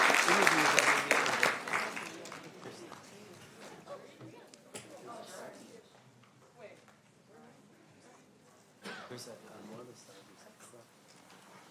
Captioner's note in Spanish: aplausos